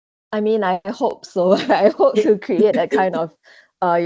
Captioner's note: laughs